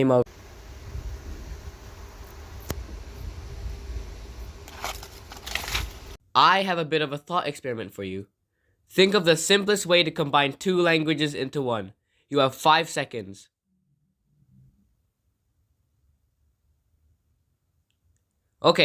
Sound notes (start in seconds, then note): 0.3 wind rustling; 4.6 paper falls down